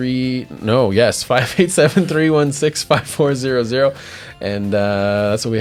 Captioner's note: laughs